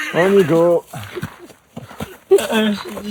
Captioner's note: laughter